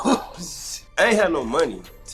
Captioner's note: laughs